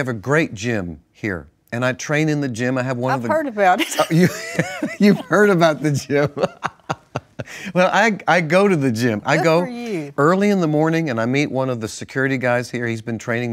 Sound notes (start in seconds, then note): 3.8 laughs